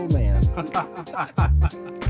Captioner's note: both laughing